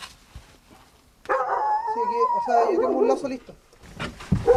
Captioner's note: dog barking